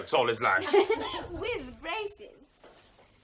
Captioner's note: henrietta laughs